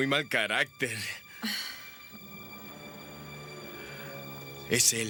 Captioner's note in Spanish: Jodie suspira